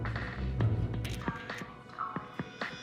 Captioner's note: phone camera clicks